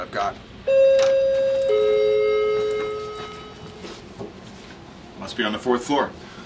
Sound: doorbell chiming

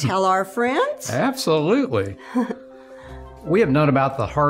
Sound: laughs

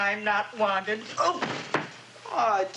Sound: thudding

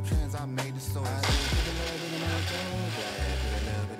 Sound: blender buzzing

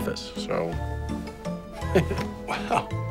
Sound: chuckles

